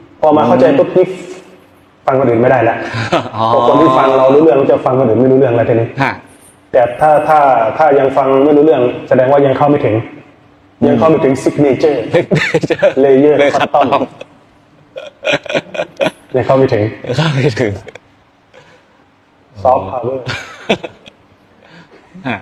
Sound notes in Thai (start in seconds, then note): 14.8 เสียงหัวเราะ